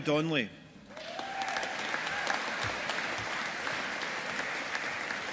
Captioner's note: audience applauding